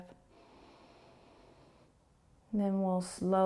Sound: inhaling

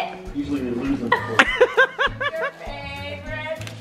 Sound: laughs

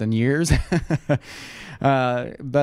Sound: laughs

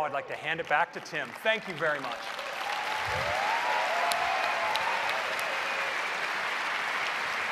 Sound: applause

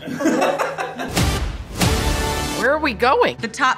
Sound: all laughing

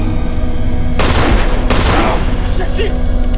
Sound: gun clicking; gun firing

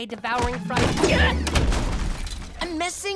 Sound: thudding

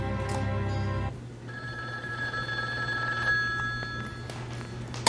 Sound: phone ringing

